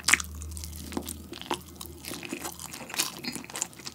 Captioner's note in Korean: 우걱우걱; 촵촵